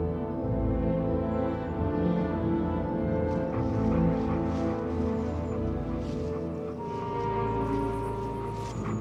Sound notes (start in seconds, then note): 2.6 excited panting - footsteps